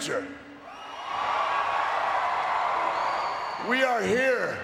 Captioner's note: crowd cheering